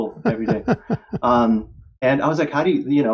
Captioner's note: laughter